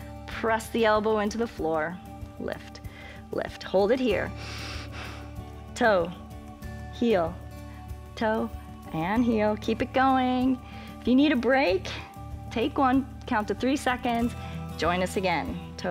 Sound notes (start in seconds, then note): 4.3 inhales